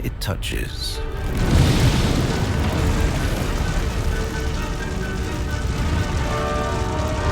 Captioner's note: light dramatic music; fire rustling